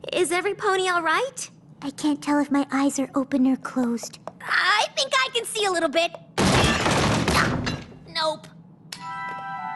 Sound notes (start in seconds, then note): 6.4 crash and clatter; 8.8 click